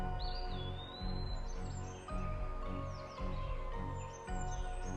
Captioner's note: birds chirping